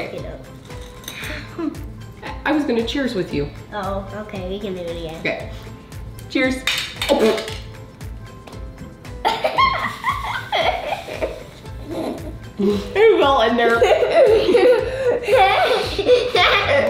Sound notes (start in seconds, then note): 9.2 giggles; 13.6 giggles